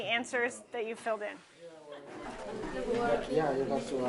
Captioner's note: chatting and laughing